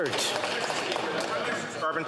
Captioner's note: some Applause